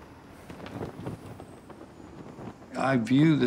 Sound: flag flutters

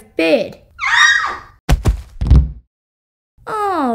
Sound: thud!

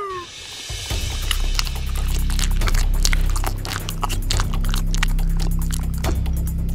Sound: dramatic music; mouth chomping

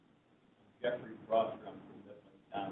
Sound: voice fades

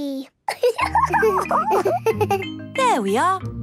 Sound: giggles

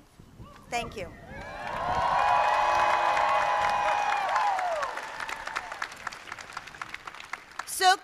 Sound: applause

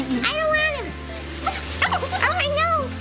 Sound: barking

